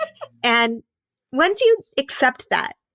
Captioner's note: laughing